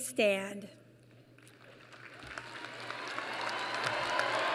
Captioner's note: applause